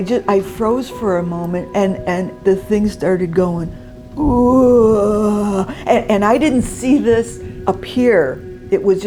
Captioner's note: imitates groan